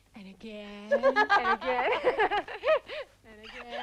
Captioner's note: Tracima laughing